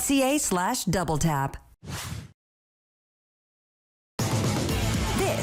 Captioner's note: air whooshing; upbeat music